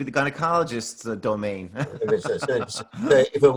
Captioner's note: laughter